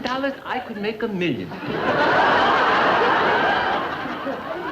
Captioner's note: audience laughing